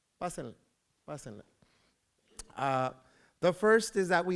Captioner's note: foreign language